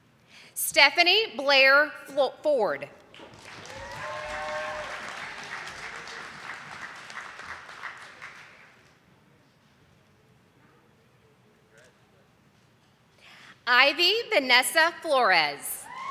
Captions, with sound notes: Stephanie Blair Ford. (audience applauding) Ivy Vanessa Flores.